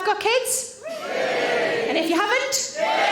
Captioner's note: audience cheering